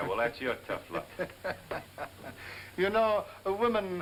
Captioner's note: laughing